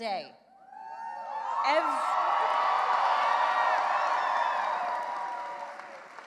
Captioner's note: cheering and applause